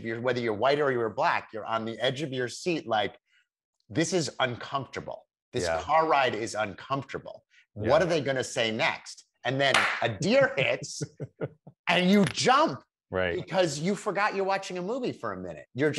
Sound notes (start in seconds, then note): 9.6 claps hands